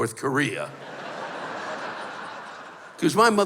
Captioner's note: laughter